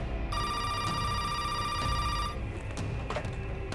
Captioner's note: phone ringing